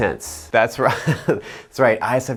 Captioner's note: chuckles